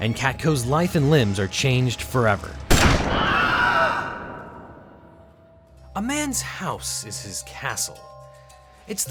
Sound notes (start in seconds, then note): 2.8 door slams; 3.4 man yells